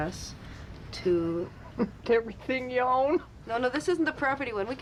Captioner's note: woman, Laughing